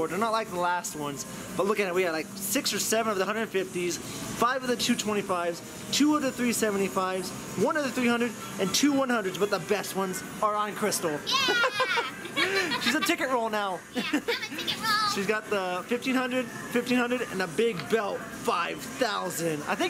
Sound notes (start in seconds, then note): 11.3 laughing